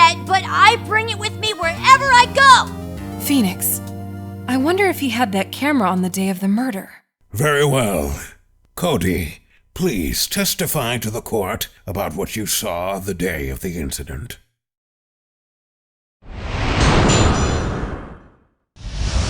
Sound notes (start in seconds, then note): 3.4 whispering